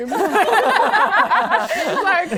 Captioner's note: laughing